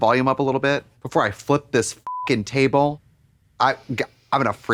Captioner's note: beep